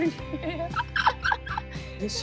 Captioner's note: laughs